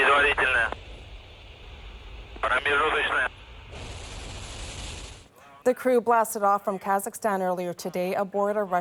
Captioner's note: speaking alternate language